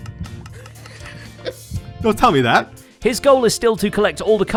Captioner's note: laughs